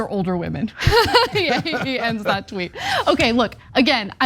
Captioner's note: laugh